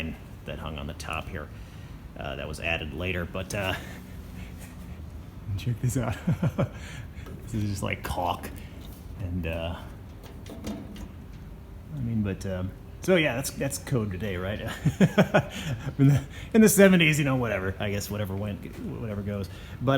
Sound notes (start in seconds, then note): 5.6 chuckles; 14.6 laughs